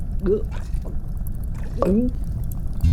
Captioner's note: gulp